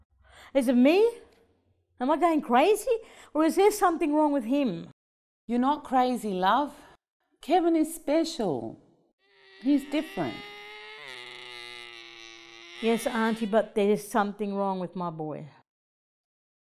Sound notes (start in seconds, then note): 11.1 makes repetitive car noises